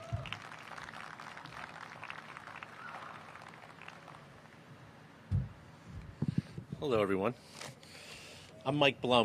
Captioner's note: applause